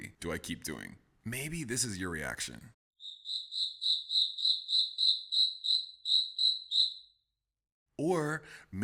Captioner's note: cricket noises in the forest